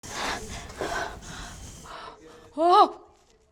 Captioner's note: panting